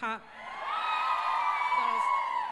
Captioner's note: crowd cheers